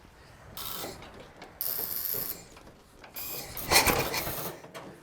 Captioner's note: machine buzzes